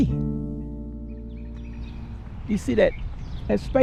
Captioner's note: birds chirping